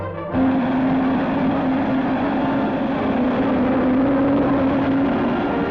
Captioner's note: space rocket taking off